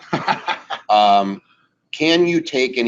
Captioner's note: laughing